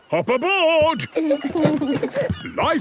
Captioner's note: both giggle